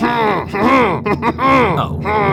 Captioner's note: cackling under breath